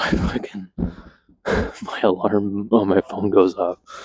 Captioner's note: laughs